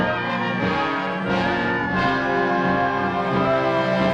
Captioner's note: shouting in excitement